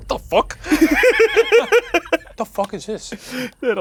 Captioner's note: both laughing; laughing